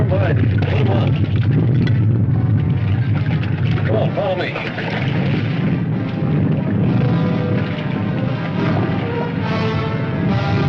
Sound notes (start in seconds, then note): 5.6 volcano rumbling; 6.5 dramatic orchestral music